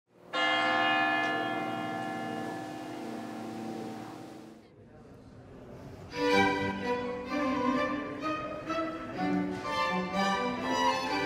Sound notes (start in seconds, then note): 0.3 bells chiming; 6.2 joyful music